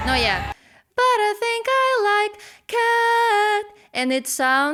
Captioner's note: breath